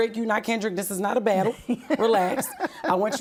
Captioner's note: laughing